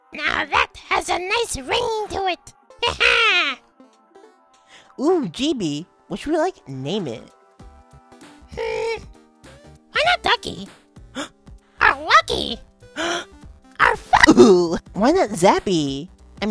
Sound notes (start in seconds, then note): 11.1 gasp; 12.9 gasp